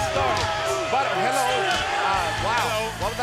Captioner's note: crowd cheering